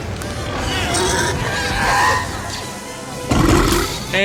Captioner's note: creature roaring; loud belch